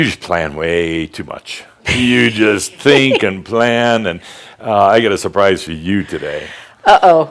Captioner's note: she giggles